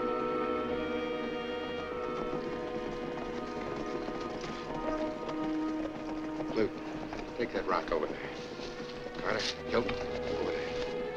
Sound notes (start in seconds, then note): none